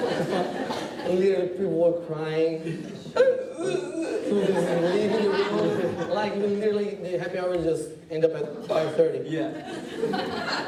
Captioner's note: mock crying sounds